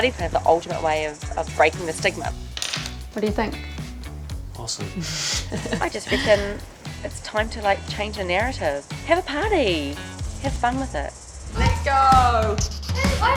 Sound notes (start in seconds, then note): 4.7 laughs